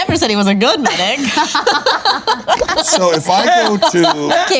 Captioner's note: laughing